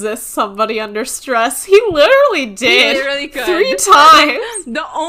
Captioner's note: laughing